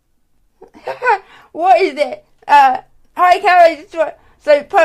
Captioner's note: laughs